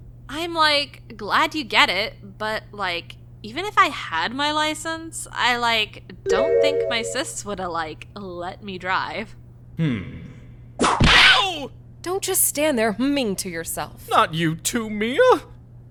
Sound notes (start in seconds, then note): 10.8 whack!